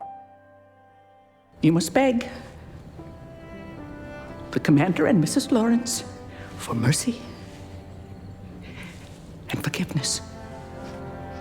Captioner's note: voiceover